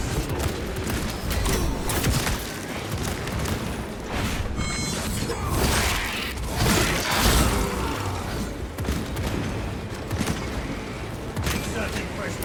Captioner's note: gunfire